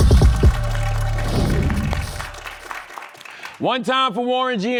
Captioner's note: applause